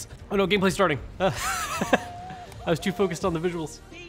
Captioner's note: laughs